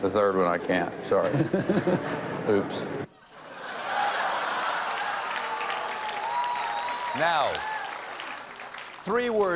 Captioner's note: applause; laughter